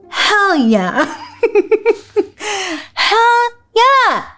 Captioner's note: laughing